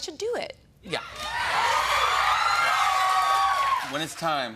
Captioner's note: cheers and applause